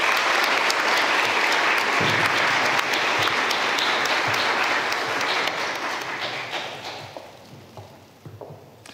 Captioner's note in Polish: oklaski